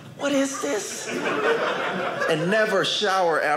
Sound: audience laughing

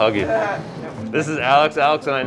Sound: laughing

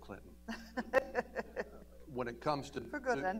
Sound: laughter

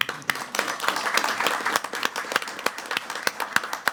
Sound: clapping warmly

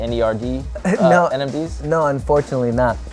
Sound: laughs

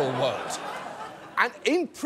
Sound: audience laughs

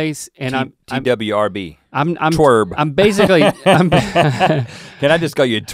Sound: laughs

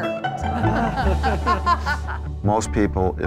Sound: laughing

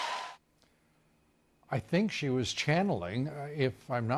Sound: cheers and applause

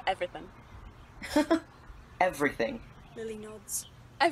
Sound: Remus laughs

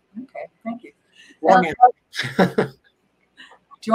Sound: laughs

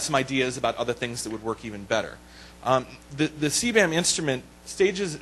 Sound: voiceover

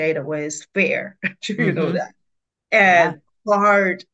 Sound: laughs

